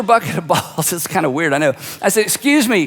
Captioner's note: laughs